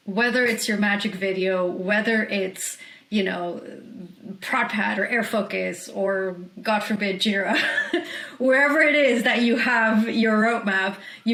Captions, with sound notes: whether it's your magic video, whether it's ProdPad or Air Focus or God forbid Jira (chuckles), whoever it is that you have your roadmap,